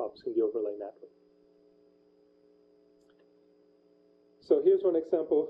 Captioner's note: pause